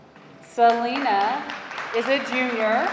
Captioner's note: audience applauding